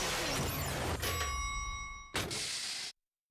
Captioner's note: dinging